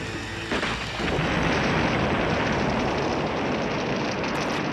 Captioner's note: booming explosion